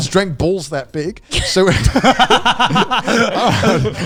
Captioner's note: all laughing